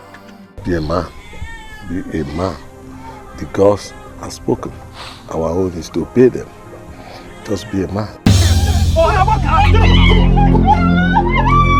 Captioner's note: snorts